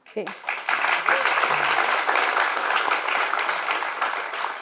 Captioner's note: applause